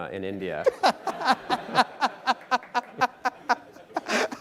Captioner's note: everyone laughing